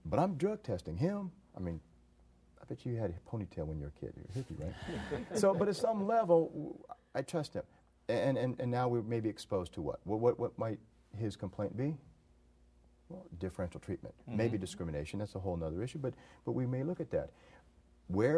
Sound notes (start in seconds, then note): 4.8 group laughter